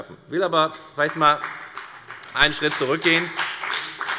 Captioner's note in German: Beifall bei der FDP